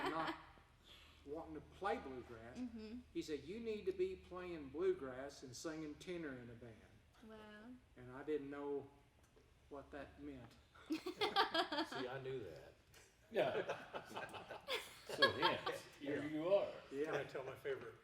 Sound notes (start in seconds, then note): 10.9 laughing; 13.4 group laughing; 13.5 laughing